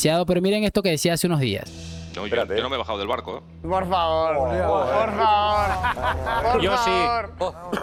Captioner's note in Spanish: risas